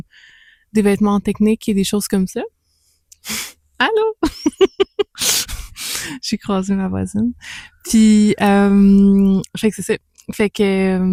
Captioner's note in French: rires